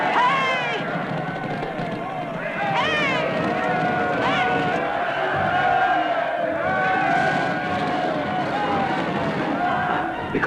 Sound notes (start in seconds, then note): 2.5 yelling